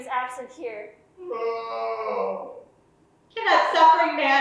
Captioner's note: Oedipus wailing